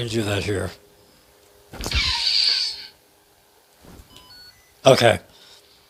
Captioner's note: saber beeps